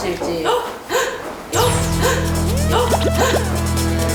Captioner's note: someone's footsteps!